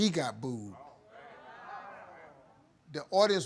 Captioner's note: audience murmuring